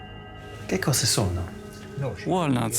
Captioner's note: speaking Italian